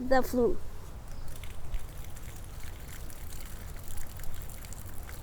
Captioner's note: water splashes